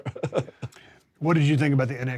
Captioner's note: Drew chuckles